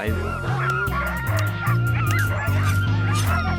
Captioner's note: dogs barking